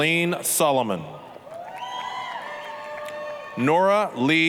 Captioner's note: applause, cheering